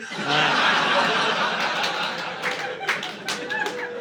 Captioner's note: laughter